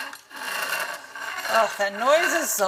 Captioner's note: grinding noise